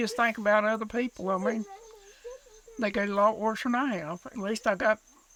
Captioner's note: sobbing